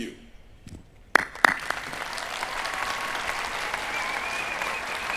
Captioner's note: cheering